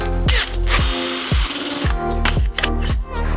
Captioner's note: amazing tool sounds